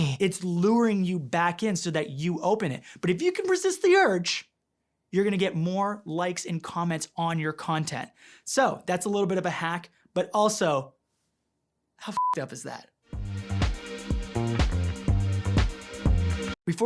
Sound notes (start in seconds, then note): 12.1 beep; 13.1 rhythmic music